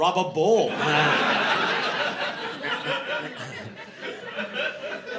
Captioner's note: laughter